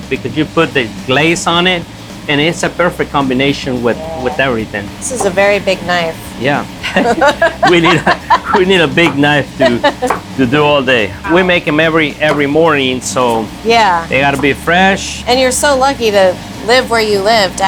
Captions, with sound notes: because you put the glaze on it, and it's a perfect combination with everything. [knife chops] - This is a very big knife. - Yeah. [both laughing] We need a big knife to do all day. We make 'em every morning, so they gotta be fresh. - And you're so lucky to live where you live,